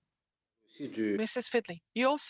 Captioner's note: speaking French